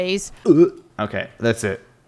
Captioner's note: gags